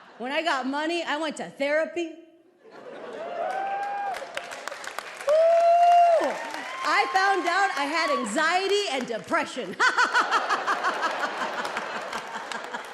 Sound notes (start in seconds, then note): 3.1 audience cheering and applauding; 9.7 laughs